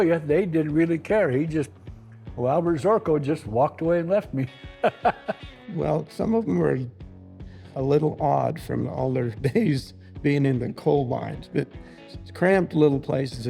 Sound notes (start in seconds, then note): 4.7 laughs